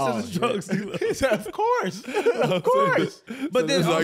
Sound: laughing

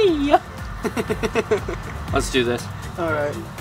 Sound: laughing

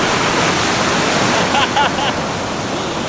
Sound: laughs

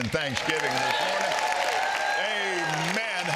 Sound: audience cheers and applauds

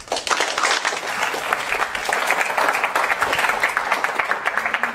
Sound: applause

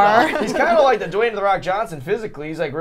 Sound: laughing

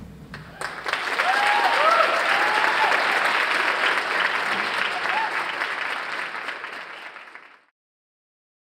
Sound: audience applause

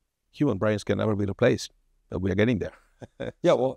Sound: laughs

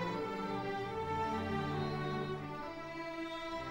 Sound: none

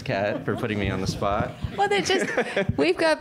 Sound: laughter

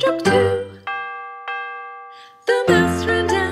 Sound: bell dings

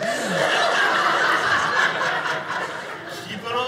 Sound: audience laughing

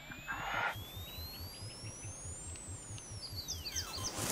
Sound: tone oscillating; high-frequency tone

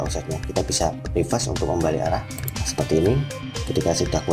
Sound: click

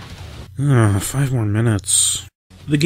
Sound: muttering

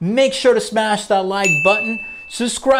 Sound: bell dings

